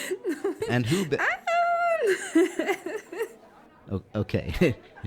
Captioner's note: excessive laughter